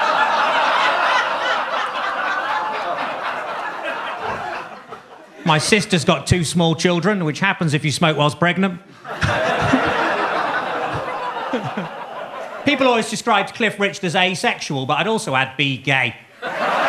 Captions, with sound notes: (audience laughing) My sister's got two small children, which happens if you smoke whilst pregnant. (audience laughing) (Gary chuckles) People always described Cliff Richard as asexual, but I'd also add B. gay.